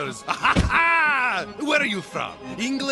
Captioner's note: chuckles